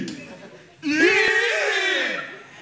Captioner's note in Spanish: más alto